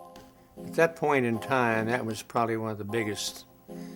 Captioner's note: voiceover